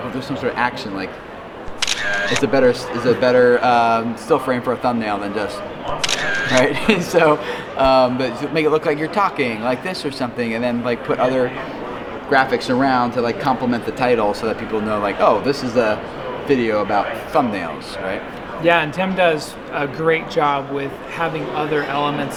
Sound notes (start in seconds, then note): 1.6 camera click; 5.9 camera click; 6.2 laughs